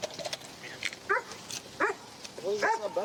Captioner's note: dog barks